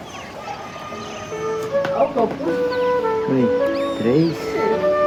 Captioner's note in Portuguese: Voz masculina